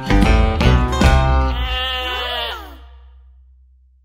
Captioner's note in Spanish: Sonido de oveja